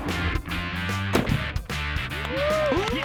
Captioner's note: rock music; cheering